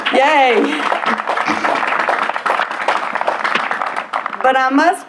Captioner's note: applause